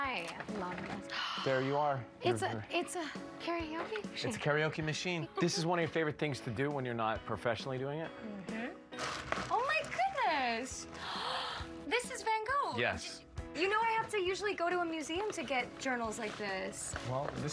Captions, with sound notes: Oh! Oh, yes! I love this. -[gasps] -There you are. -It's a--It's a karaoke machine. -It's a karaoke machine. This is one of your favorite things to do when you're not professionally doing it? -Mm-hmm. Oh, my goodness! -[gasps] This is Van Gogh. -Yes. Do you know I have to usually go to a museum to get journals like this.